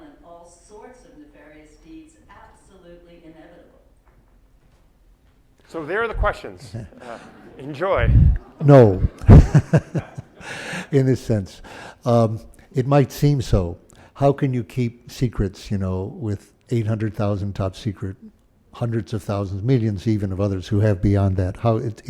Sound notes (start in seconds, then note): 6.6 laughter; 9.4 laughs